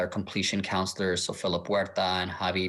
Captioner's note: speaking in foreign language